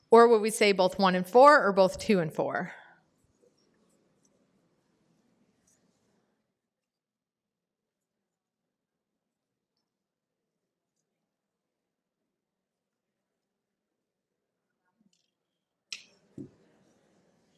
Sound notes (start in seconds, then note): 3.1 pause